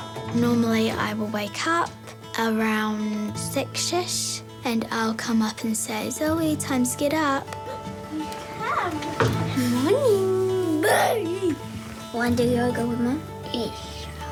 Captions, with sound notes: Normally I will wake up around 6-ish, and I'll come up and say, 'Zoe, time to get up.' (CHATTERS SWEETLY) Good morning. (EXCLAIMS) Wanna do yoga with me? Yes.